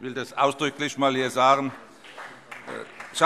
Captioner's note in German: Beifall